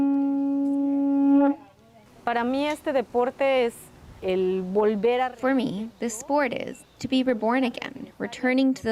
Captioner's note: speaking alternate language